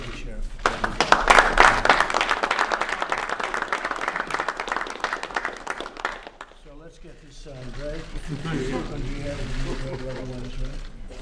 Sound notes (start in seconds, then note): 0.5 applause